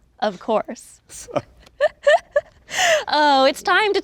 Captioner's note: both chuckle